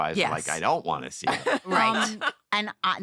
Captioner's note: laughter